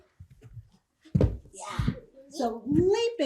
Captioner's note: heavy stomps